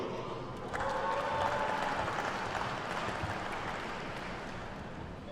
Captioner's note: attendees clapping